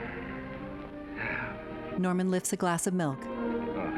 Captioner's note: Norman exhaling